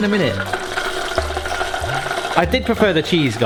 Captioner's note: oil bubbling